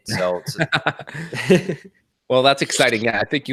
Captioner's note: laughs